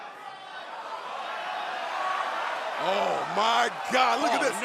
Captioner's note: crowd chatter